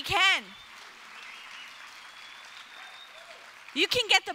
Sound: cheers

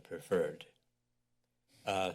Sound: pause

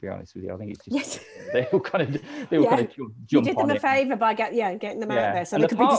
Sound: laughing

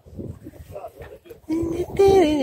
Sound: people talking, humming

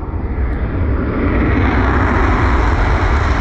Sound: engine roaring

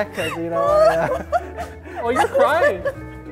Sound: laughing

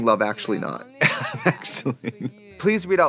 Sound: laughing

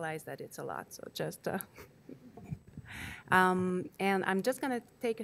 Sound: laughs

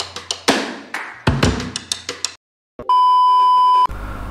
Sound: clap

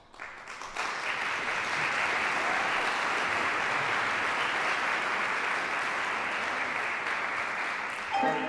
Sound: applause

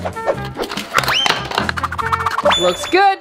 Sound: cutting sounds

